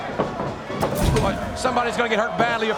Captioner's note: body thuds